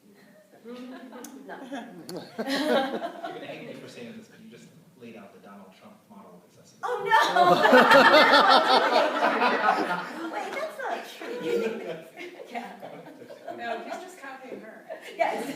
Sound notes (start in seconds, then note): 2.2 laughter; 7.1 laughter; 15.3 laughter